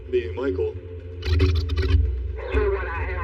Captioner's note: rewinding noises